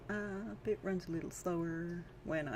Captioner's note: still sing-song